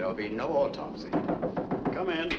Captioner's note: batendo na porta